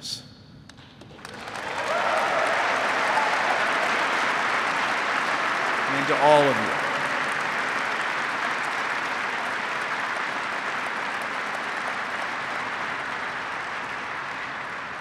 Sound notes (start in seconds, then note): 0.7 applause